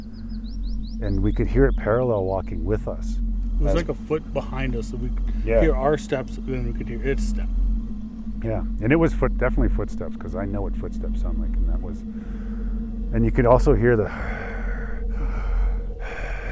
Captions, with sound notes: And we could hear it parallel walking with us. - It was like a foot behind us, so we could hear our steps, then we could hear its steps. - Yeah. And it was definitely footsteps, 'cause I know what footsteps sound like, and that was. And you could also hear the (inhales and exhales).